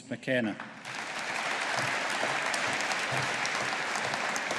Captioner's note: audience applauding